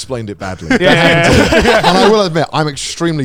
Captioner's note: laugh